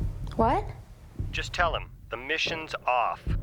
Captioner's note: on phone